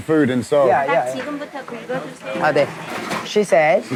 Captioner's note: waitress speaking in Korean